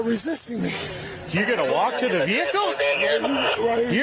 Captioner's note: radio chatter